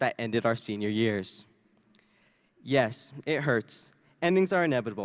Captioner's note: none